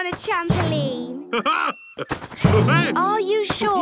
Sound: laughs

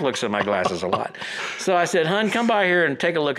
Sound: laughs

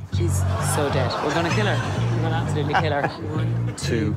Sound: laughter

